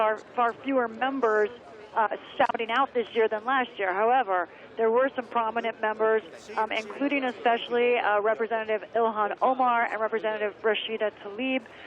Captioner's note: chanting "usa"